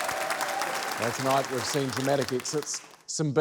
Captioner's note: cheering, applause